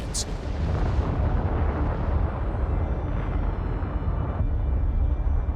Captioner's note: eruption echoing